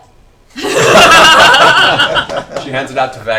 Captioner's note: all laugh